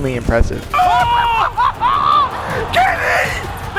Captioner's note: casters exclaim